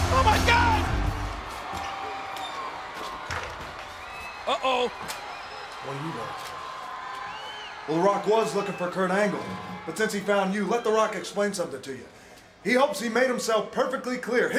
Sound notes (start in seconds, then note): 2.2 door clicks